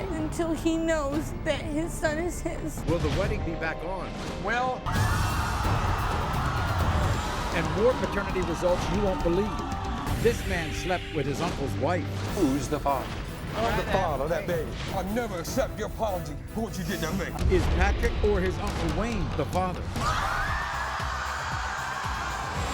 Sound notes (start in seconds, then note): 4.8 screaming; 20.0 screaming